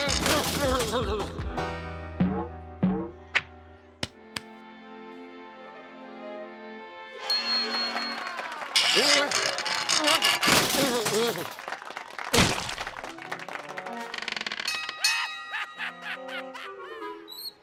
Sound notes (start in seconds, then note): 0.7 straining and muttering; 4.2 pat pat; 7.7 cheers and applause; 14.6 bell clangs